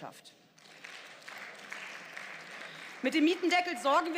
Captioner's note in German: Beifall